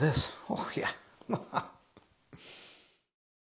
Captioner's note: chuckles